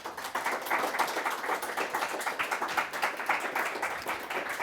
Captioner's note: audience applauding